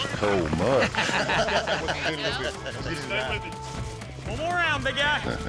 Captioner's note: laughter